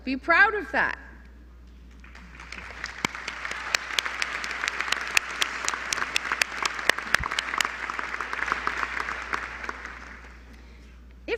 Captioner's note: applause